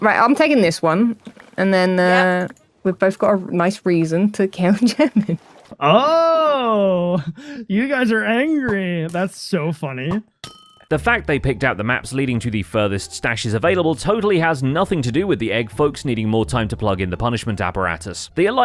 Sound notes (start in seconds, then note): 10.2 arrow dings